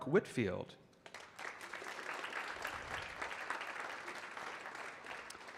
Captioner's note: audience clapping